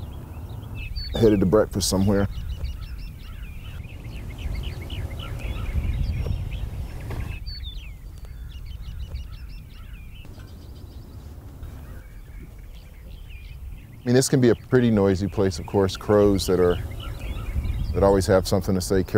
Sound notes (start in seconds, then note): 3.7 birdsong